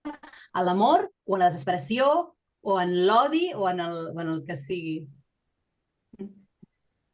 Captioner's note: continues speaking in Catalan